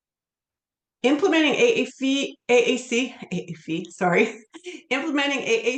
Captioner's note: laughs